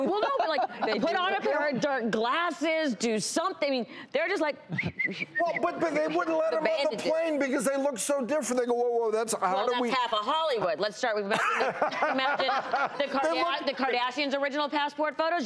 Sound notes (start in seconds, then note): 4.7 whistling